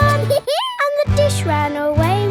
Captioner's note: dog laughs